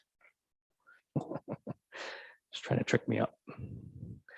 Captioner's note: laughs